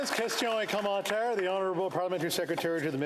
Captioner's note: applause